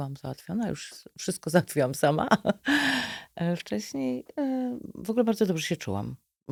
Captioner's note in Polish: śmiech